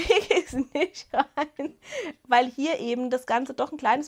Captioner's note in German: Gelächter